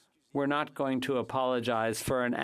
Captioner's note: speaking French